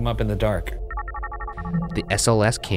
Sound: screen whirring

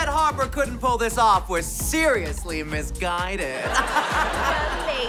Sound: laughing

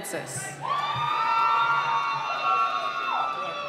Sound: cheering

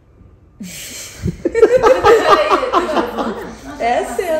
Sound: laughs

